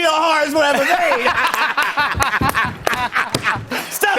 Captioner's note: laughter